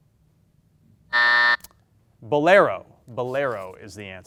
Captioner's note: buzzer beeps